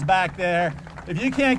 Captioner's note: applause